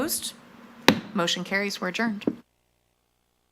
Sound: gavel banging

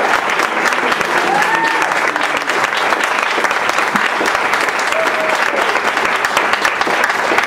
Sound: applause

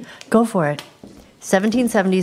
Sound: footsteps

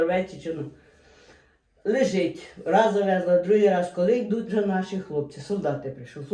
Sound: Ukrainian

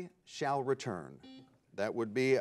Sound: bell rings

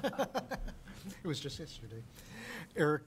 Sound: chuckling

